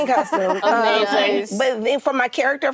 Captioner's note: actresses laughing